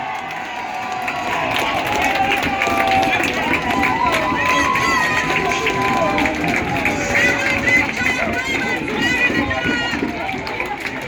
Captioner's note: applause and cheering